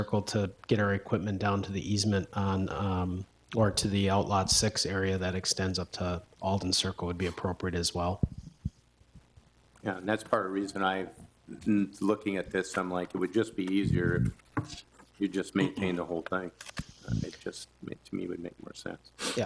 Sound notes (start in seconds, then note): 16.7 man clears throat